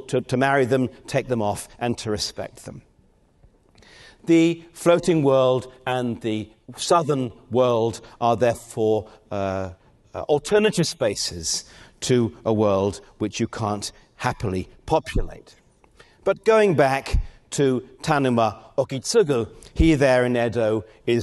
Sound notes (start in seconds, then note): none